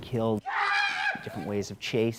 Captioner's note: screams